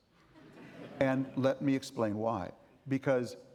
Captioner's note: audience laughing